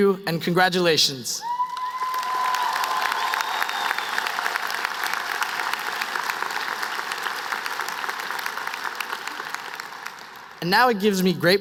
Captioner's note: applause